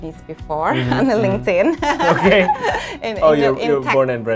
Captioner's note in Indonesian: keduanya tertawa